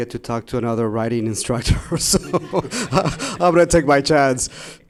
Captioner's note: laughing